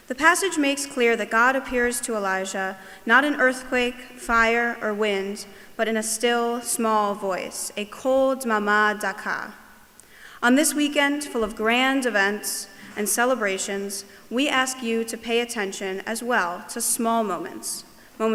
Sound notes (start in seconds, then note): 7.9 speaking foreign language